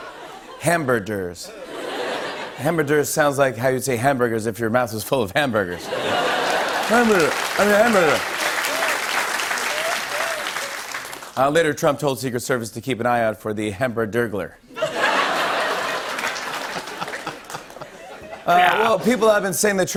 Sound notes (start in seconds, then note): 8.6 applause; 14.8 laughs